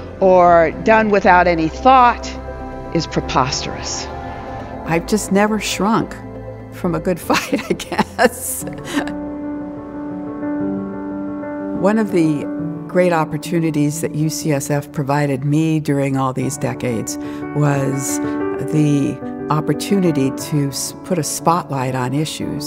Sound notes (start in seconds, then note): 7.4 laughs; 9.2 gentle uplifting music